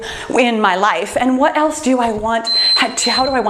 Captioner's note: timer beeps